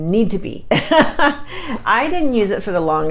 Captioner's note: laughs